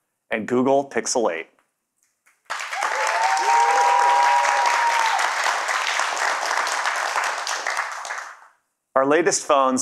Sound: cheers and Applause

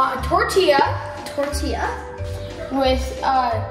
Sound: bloop noise

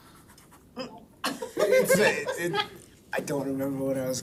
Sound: all laughing

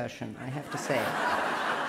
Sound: laughter

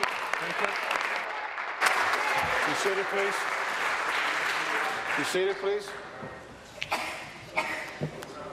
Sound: applause

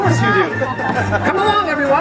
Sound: patriotic themed music; audience laughter

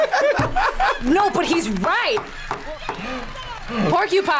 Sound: both laugh; laughs

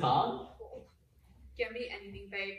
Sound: Rea groans

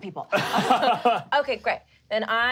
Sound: laughing

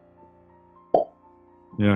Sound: pops cheek

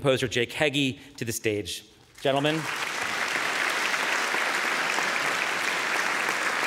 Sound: audience applauding

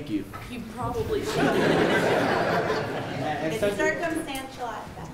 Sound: attendees laughing

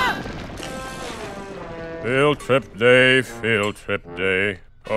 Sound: unenthusiastically

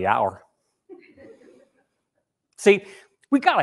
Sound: people laughing

